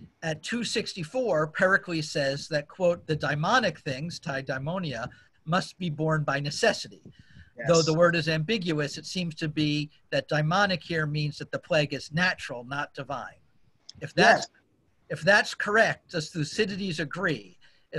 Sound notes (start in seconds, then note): 4.6 non-english